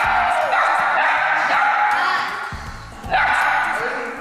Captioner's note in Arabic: أطفال يصيحون; كلاب تنبح; موسيقى ملهمة